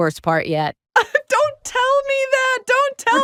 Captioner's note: laughs